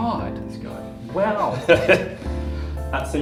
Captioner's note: laughter